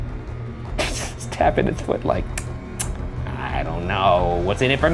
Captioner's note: clicks tongue